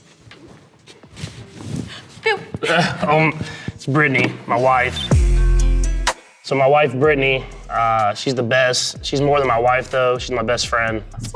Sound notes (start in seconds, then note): 2.6 Patrick chuckling; 5.4 chill-out music